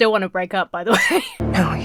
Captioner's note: Emma wheezes